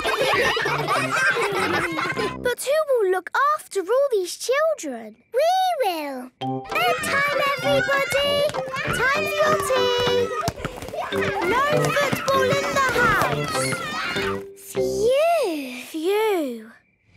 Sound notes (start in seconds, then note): 0.0 ruckus; 6.8 children playing